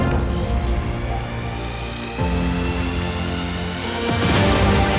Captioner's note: electricity sparking